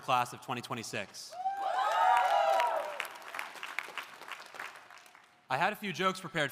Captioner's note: audience cheering; audience applauding